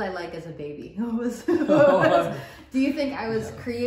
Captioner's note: both laugh